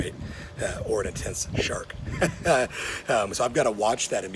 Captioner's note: chuckling